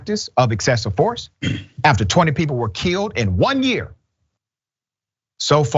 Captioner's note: cough